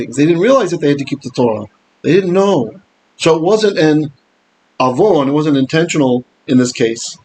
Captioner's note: Hebrew